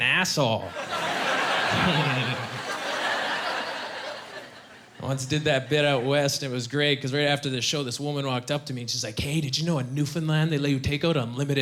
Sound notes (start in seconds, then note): 0.7 chuckling